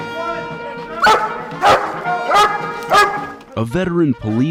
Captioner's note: Baylee barking